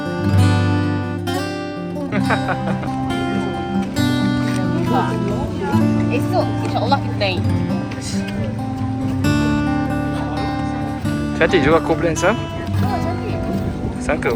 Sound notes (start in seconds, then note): 0.0 background music; 2.2 laugh